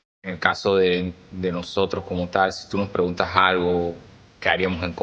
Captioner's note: speaking Spanish